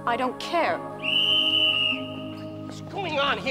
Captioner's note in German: Pfeifschläge